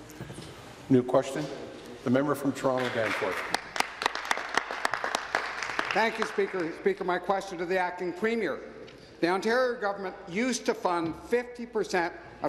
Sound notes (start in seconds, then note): 6.4 applause